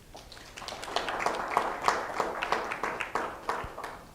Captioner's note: applause